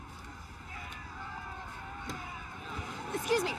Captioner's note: disgruntled crowd shouting